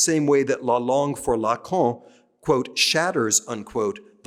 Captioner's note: speaking french